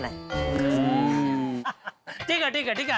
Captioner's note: clicks tongue